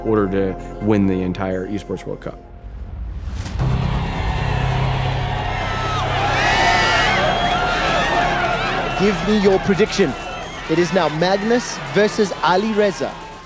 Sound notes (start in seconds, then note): 3.5 thrilling music playing; 3.6 crowd cheering